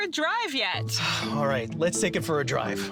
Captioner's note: sighs